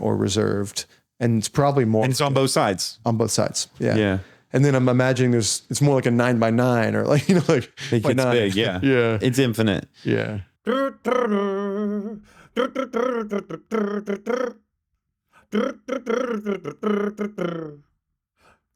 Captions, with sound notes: or reserved and it's probably more like-- - And it's on both sides. - On both sides. - Yeah. - And then I'm imagining there's, it's more like a nine by nine or like, like by nine. - It gets big, yeah. It's infinite. - Yeah. (imitating music)